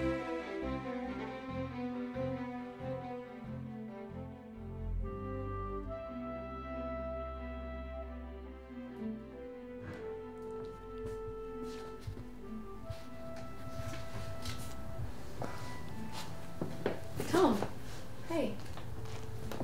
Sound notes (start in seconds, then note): 0.3 music fades to background; 9.8 footsteps